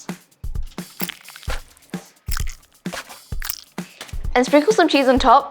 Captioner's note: food squishes